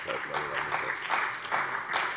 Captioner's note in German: Beifall bei der CDU und dem BÜNDNIS 90/DIE GRÜNEN